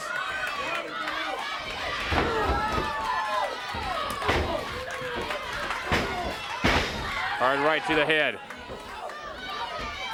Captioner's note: crowd chatter